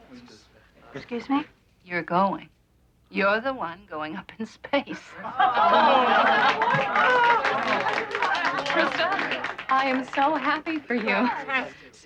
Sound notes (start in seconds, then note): 5.3 cheering